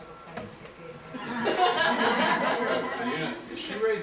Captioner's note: laughter